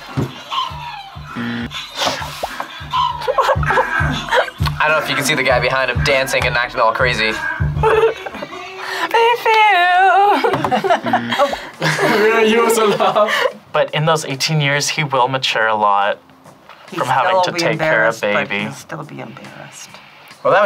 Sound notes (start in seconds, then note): 0.2 laughs; 1.3 buzzer rings; 7.7 laughs; 10.6 buzzer rings